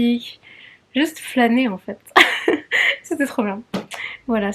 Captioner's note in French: rire